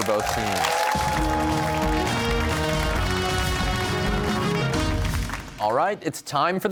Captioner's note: cheers and applause